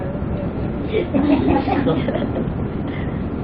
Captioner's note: laughter